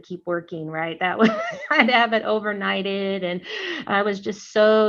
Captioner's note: laughter